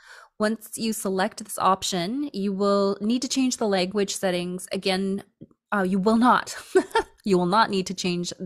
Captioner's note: laughter